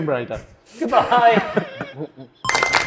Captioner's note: chuckles; hands clapping; video games beeping